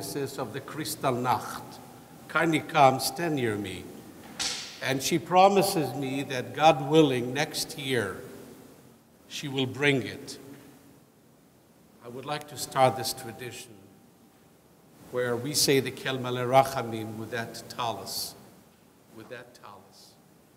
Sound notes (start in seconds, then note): 16.0 speaking foreign language